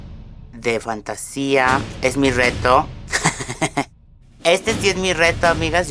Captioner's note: laughs in delusion